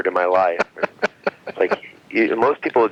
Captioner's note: laughing